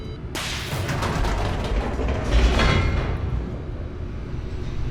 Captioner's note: gate descending